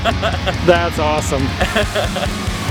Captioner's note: laughs